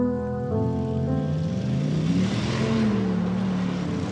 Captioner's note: engine growls